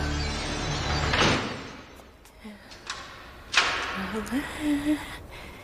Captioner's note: door slams